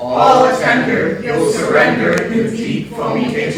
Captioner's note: in Unison